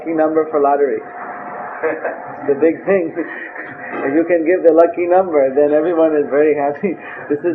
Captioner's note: laughing